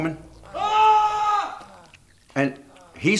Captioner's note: man screaming